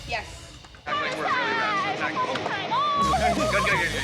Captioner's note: shouting